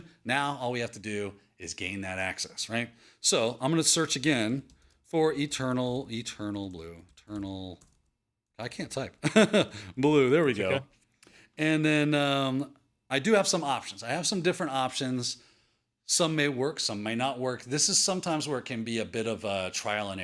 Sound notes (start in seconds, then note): 9.2 chuckles